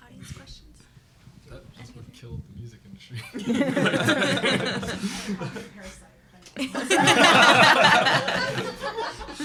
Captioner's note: laughter